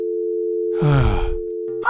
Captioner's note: sigh